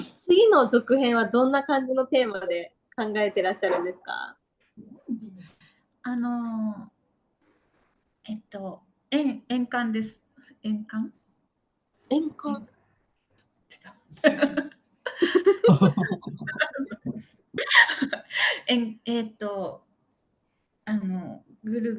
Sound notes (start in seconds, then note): 15.2 laughs